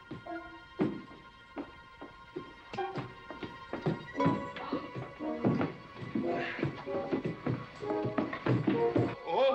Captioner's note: clumsy footsteps up stairs